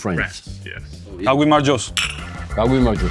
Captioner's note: glasses clinking